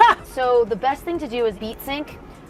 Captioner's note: laughs